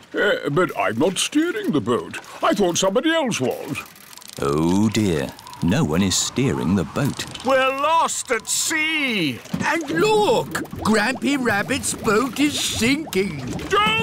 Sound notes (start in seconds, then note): none